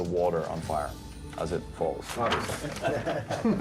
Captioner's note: laughter and chatter